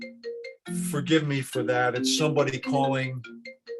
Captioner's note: phone ringing